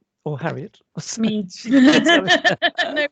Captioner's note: laughing